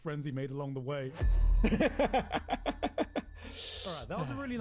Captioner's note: laughing